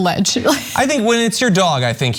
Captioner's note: laugh